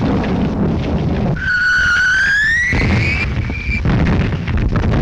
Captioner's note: bombs continue whistling